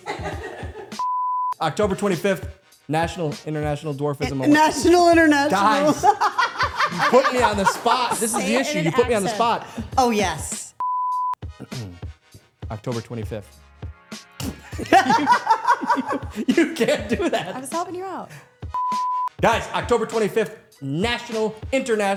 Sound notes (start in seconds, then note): 9.8 laughing